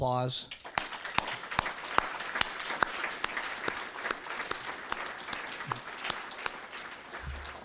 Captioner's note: applause